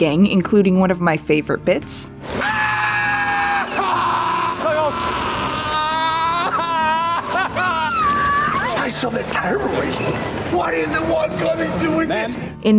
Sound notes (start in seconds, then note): 2.4 Lito screaming; 6.8 Riley screaming